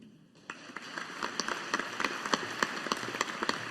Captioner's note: audience applauding